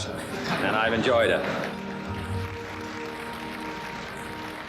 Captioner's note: people applauding; laughter